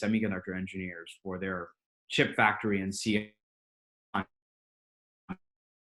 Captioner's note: audio drops out